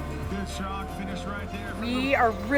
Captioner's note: loudspeaker blaring